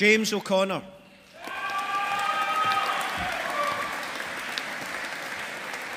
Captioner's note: audience applauding